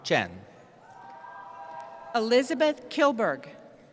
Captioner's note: cheering